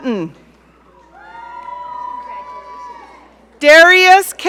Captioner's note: audience cheering